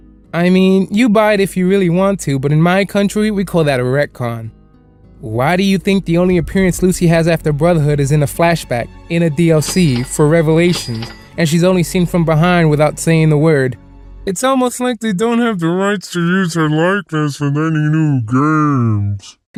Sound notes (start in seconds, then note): none